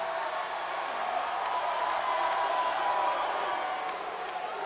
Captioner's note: audience cheering